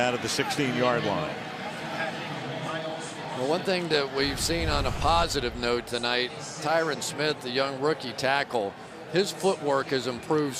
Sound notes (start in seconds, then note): 2.6 pa announcement